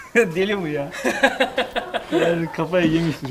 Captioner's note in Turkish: Gülüşmeler